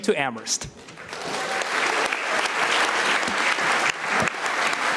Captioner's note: audience applauding